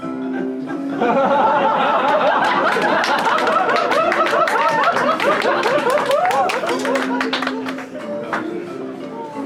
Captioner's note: laughter and applause